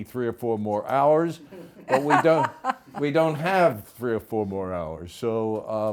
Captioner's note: laughs